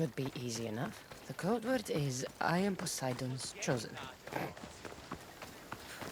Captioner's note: snort